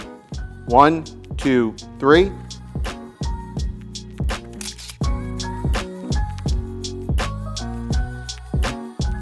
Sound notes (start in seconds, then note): 2.3 upbeat music; 4.6 camera shutter clicking; 5.6 upbeat music